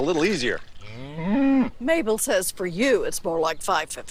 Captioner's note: moo